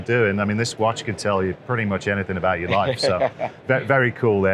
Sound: laughter

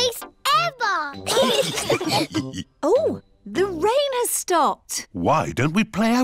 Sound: laughter

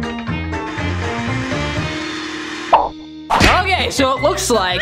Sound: vaccum noises

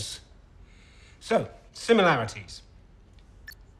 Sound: remote beeps

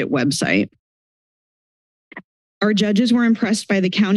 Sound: silence

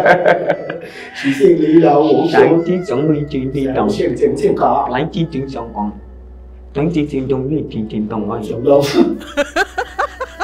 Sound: speaks in Mandarin

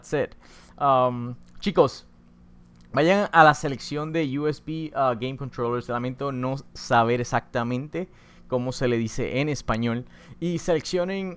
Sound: spanish Voice Over

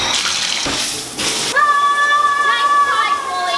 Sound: screaming

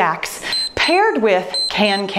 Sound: timer beeps

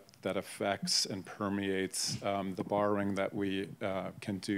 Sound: none

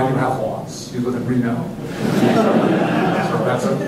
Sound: laughter

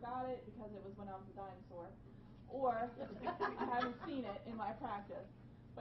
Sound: laughing

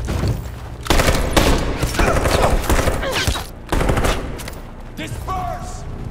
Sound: gunfire, androids groaning

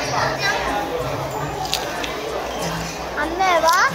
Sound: Crunch

